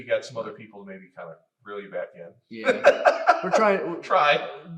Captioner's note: laughs